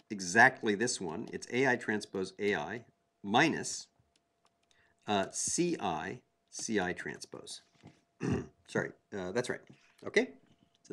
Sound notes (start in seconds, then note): 5.1 cough